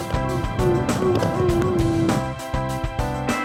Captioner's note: imitating barks